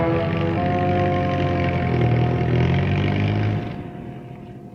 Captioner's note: car engine revving